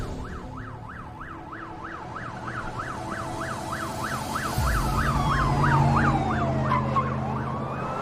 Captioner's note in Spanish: Sirena de policía